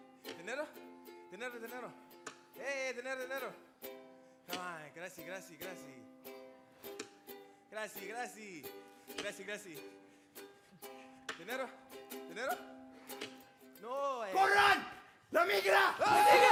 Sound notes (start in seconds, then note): 0.2 lighthearted guitar music; 2.9 speaking Spanish; 15.0 speaking Spanish